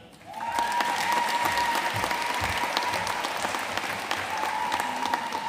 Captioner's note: audience cheering and applauding